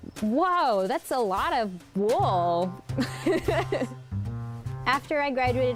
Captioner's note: laughs